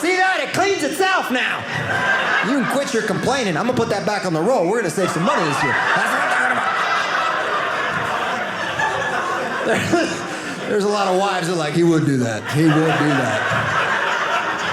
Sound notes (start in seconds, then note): 5.7 audience laughing